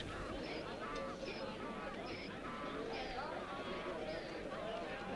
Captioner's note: townsfolk chattering